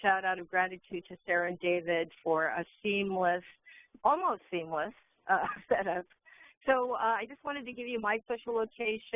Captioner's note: laughing